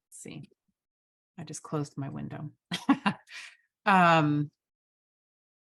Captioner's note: chuckles